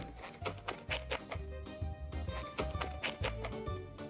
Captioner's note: bread crunching; upbeat Italian music